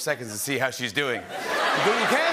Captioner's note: laughter